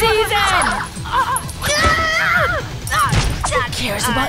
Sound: yelling in pain

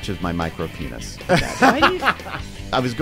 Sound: laughter

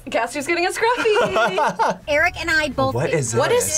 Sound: laughs

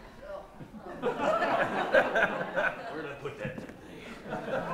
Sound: laughter

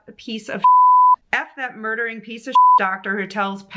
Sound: beep; beep

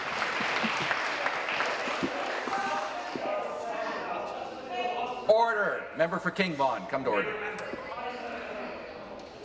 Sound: applause

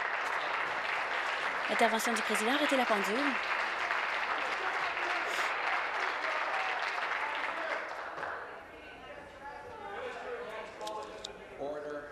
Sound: applause

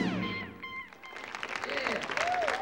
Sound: audience applauding

